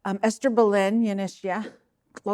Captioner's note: speaking in Navajo language